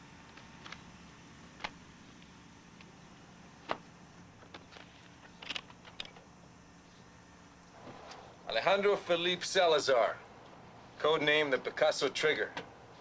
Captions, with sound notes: (slide projector clicking) - Alejandro Philippe Salazar code name the Picasso Trigger.